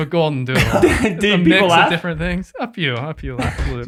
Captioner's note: group laughs